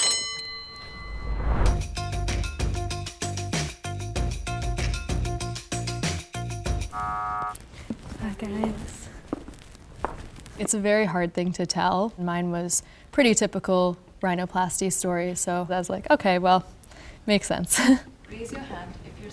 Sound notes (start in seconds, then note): 0.0 bell ringing; 1.6 upbeat music; 6.9 buzzing sound